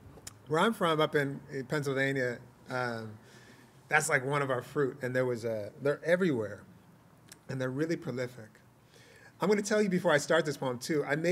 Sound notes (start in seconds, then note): none